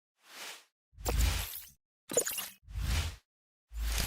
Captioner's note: swoosh effects